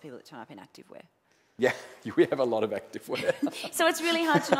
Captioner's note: laughs